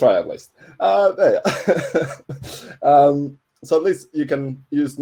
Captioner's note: laughing